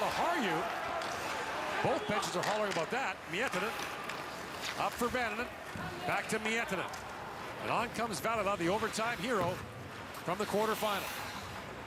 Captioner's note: cheering